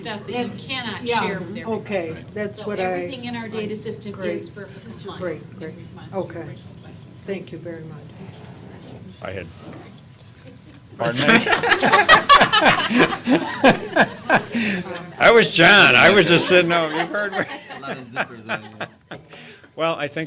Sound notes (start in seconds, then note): 11.1 indistinct chatter; 13.3 laughter